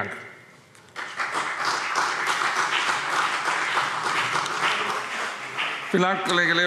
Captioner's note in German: Beifall BÜNDNIS 90/DIE GRÜNEN und CDU